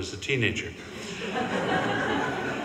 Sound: audience laughing

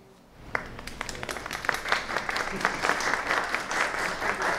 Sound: audience applauding

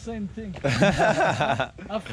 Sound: laughing

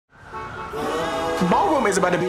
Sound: car honking

